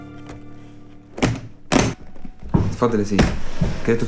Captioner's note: briefcase closes